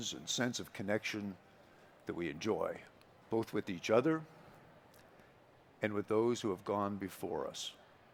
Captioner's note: none